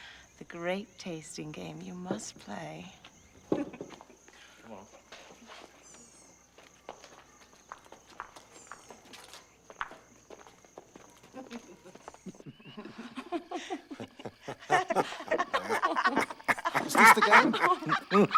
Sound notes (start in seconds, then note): 11.3 laughter